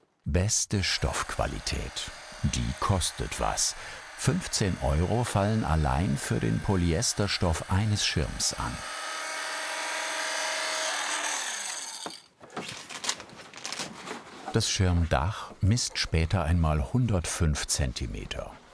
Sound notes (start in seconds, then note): 9.6 whirr